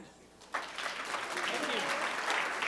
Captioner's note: applause